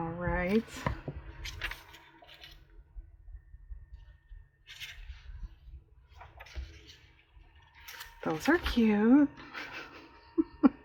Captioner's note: laughs